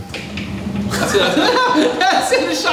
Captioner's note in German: Lachen; lacht